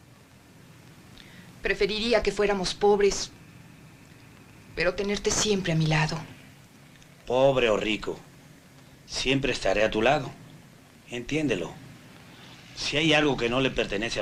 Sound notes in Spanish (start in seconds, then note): none